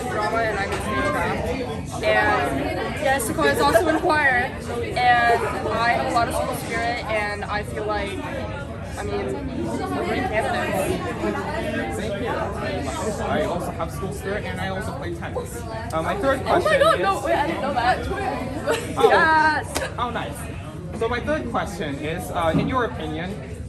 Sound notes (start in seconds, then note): 16.3 chuckles